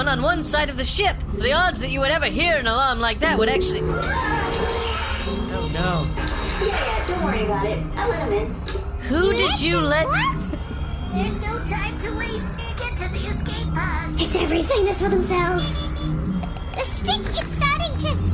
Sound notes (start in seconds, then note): 5.5 alarm blaring; 11.5 shouting